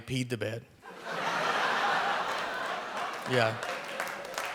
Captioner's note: audience laughing